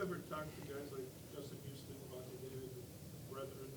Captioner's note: speaks faintly